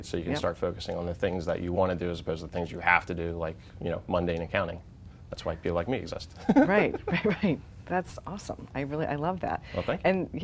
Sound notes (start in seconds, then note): 6.4 laughing